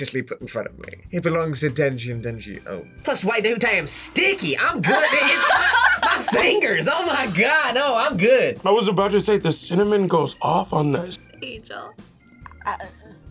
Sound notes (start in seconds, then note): 3.0 in "Southern" accent